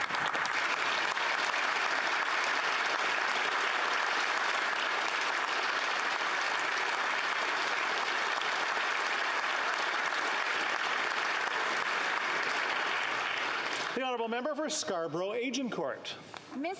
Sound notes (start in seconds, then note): 5.2 applause